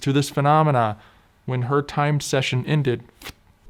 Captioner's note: ffft